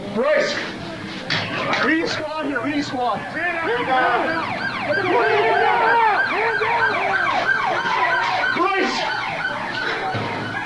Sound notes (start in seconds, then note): 2.6 police siren; 3.6 officers shouting orders